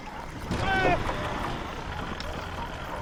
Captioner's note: door opening, shouting